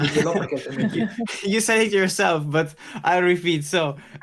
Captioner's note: skratt